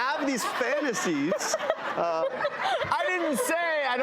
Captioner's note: laughing